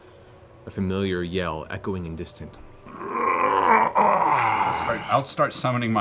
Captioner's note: roars